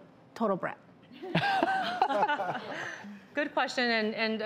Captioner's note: crowd laughs